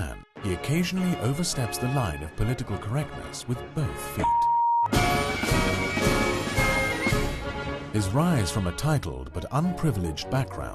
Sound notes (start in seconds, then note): 4.2 beep; 4.8 dramatic music